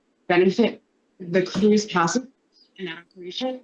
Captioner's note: faintly speaking